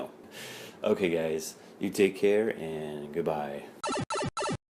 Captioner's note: warp sound